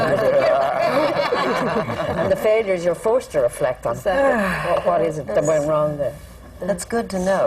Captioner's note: laughter